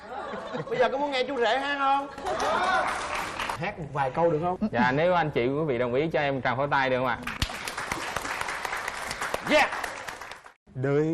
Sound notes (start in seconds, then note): 2.2 applause; 7.2 applause